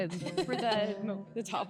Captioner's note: laughing